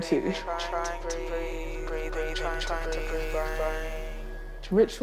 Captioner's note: echoing, overlapping